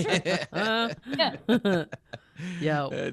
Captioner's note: laughing